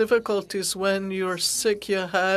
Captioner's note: speaking French